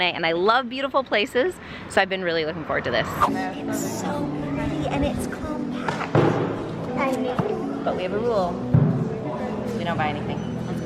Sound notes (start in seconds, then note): 2.6 scene whooshing; 3.5 children murmuring